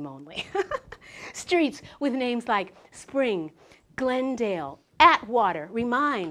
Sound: laugh

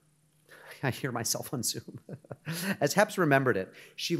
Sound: chuckles

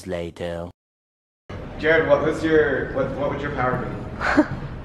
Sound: voiceover

